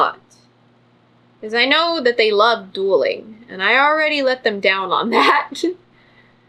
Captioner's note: laughs